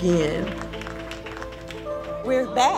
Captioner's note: attendees clapping